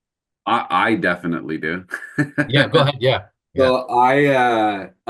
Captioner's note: chuckles